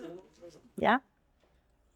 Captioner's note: people Chattering